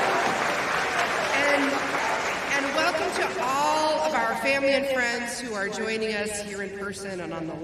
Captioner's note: applause